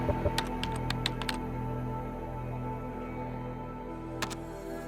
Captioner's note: keyboard clicking